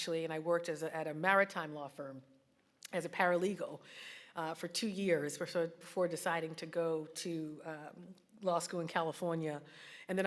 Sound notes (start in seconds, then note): none